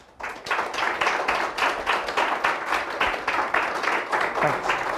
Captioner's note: audience applauding